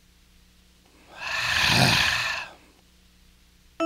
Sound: Bear un-exhales and then exhales

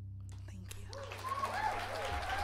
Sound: audience applauding

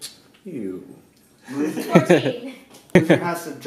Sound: laughing

